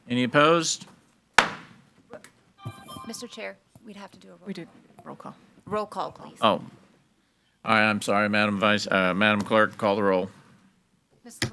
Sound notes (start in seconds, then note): 1.4 gavel bangs